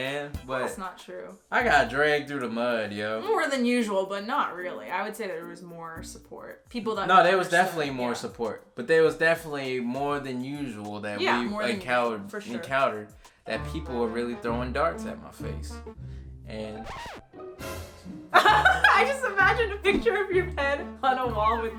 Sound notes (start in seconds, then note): 16.8 record scratching; 18.3 laughing